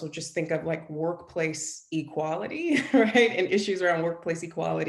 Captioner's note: chuckles